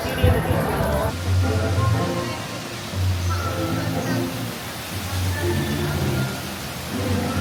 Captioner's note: automated Voice; bright music; water whooshing